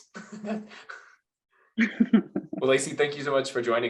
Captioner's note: laughs